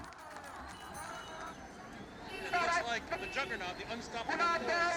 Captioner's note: loud speaker in Bengali